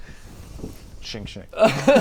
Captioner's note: sching sching